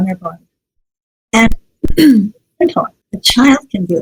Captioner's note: clears throat